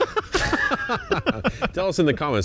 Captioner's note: chuckles; laughs